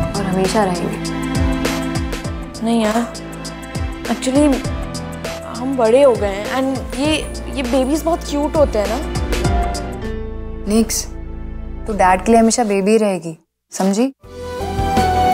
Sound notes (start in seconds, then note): none